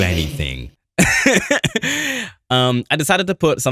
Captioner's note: laughs